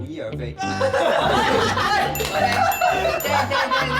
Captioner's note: descends into hysterics